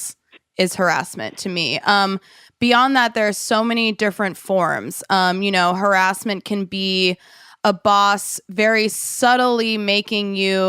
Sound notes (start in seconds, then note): none